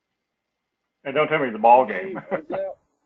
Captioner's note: laugh